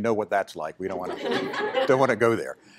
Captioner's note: laughter